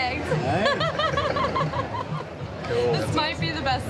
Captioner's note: laughing